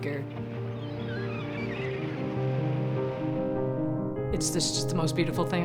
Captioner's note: seagulls calling